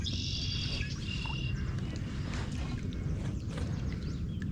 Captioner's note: birds chirping